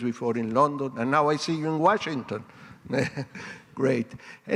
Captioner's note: laughs